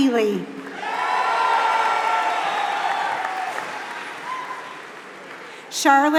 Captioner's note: applause